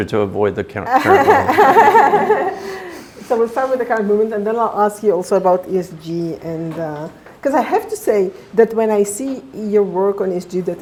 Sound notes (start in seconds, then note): 0.8 laughs